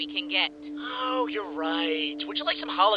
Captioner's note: sarcastic